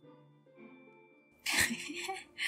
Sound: laughter

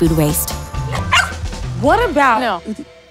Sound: dog barks

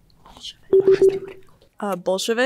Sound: buzzer pulses

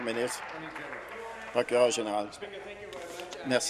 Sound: applause

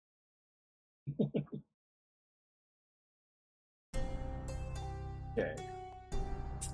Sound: chuckles

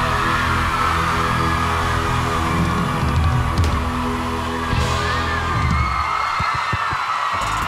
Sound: audience cheering

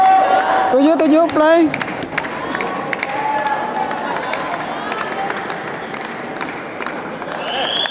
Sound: applause

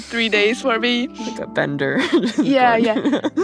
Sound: laughs

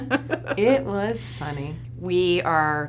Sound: laughs

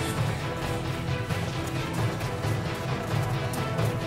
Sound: both panting

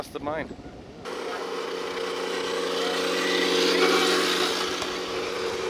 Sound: machinery engine revs

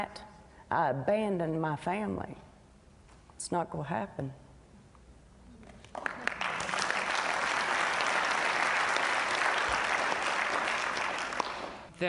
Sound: applause

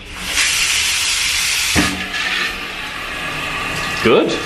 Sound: water running

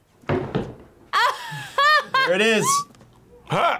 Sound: laughs

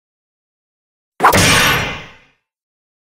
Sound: sound of sword

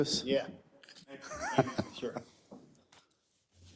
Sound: laugh

